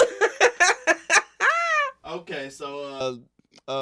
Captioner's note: laughing